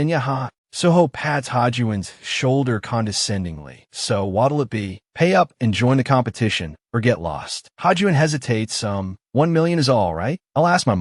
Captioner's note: Hajun hesitates